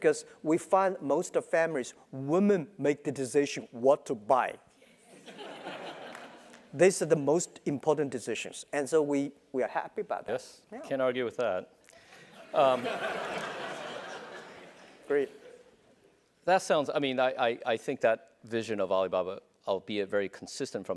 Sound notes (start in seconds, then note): 5.1 laugh; 12.6 laugh